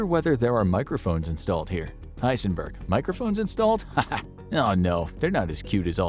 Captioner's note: laughing